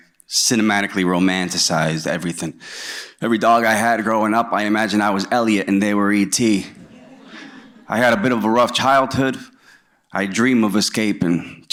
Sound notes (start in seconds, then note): 6.7 audience chuckles